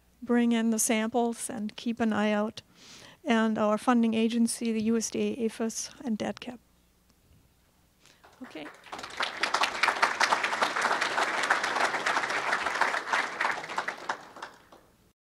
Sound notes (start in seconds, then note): 8.2 crowd clapping